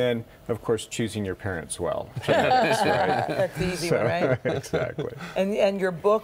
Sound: laughing

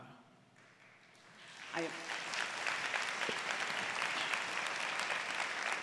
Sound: applause

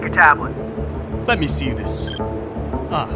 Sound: computer chirp

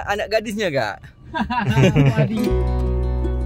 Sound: laugh

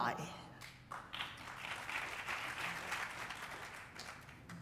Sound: applause

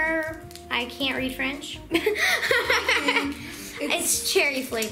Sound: laughing

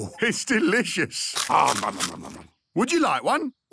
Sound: crunching

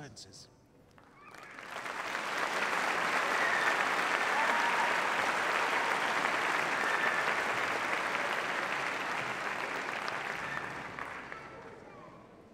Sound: applause

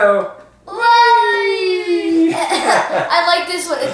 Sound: cheering

